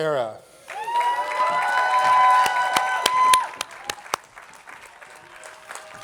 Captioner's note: attendees applauding